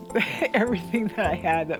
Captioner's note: laughs